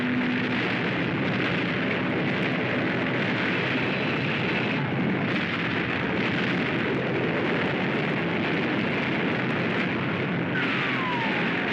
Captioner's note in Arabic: اصوات الفوضى والدمار; انفجارات